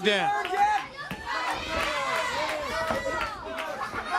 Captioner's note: crowd cheering